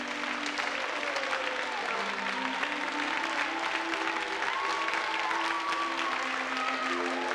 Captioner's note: audience applauding; light orchestral music